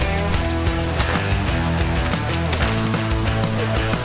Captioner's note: guns banging